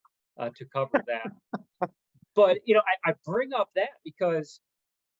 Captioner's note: laugh